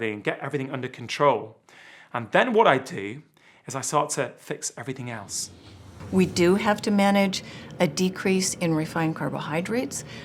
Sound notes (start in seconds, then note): 5.0 whooshing